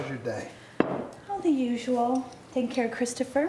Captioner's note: beer bottle thuds